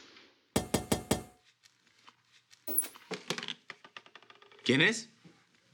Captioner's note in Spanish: Toques en la puerta